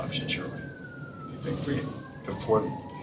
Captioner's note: sirens